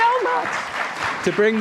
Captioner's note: applause